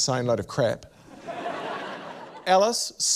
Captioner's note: laughter